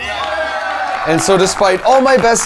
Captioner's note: people cheering